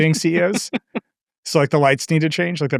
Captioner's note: laughing